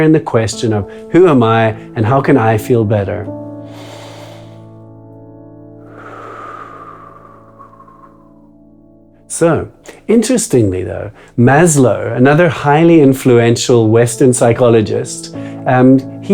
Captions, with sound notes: in the question of who am I and how can I feel better? (inhales) (exhales) So, interestingly though, Maslow, another highly influential Western psychologist